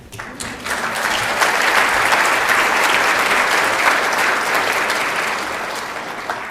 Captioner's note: applause